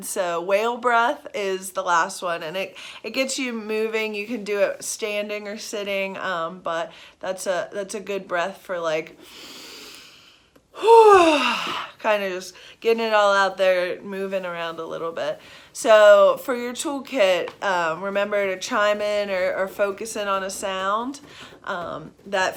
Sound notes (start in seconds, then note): 10.7 inhaling; 10.8 exhaling